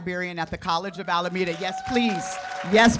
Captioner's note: cheers and applause